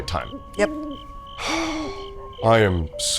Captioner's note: cricketrs chirping; sighs